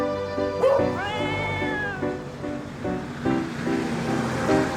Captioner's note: bright music; Hank barks; cat meows; car engine revving; lively music